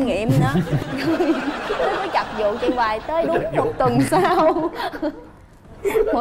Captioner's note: laughing